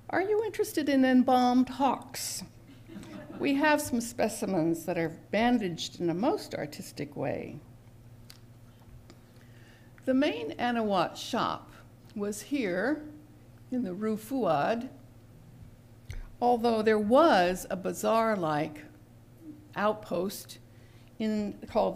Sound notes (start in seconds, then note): 2.7 laughter